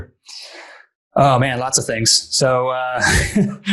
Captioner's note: laughs